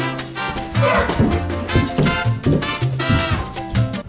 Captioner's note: salsa music; thud